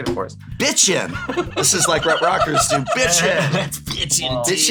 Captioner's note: laugh